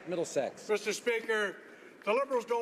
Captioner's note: some Applause